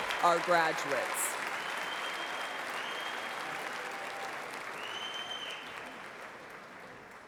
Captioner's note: applause